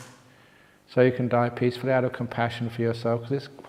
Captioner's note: none